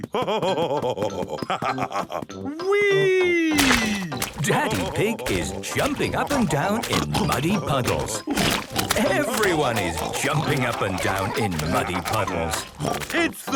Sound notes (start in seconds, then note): 3.6 splashes